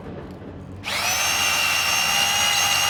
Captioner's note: whirring